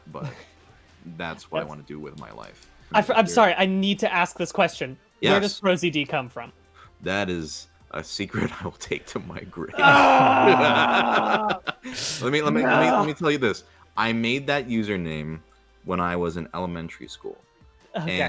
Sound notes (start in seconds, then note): 9.7 screams; 9.7 SungWon laughs